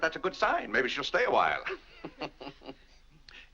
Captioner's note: laughs